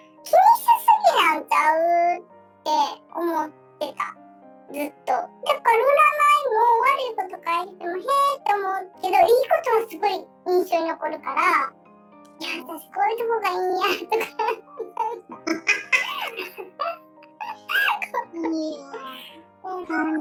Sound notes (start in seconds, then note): 13.9 laughs